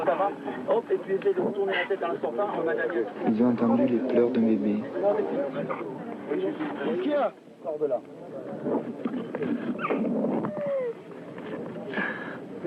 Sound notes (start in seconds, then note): 3.3 S. Klau in French; 10.5 baby crying